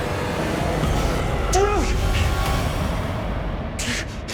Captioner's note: dramatic music; Shawn yells